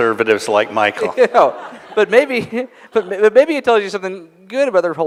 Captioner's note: laughter